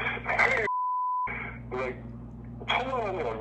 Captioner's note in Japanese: 英語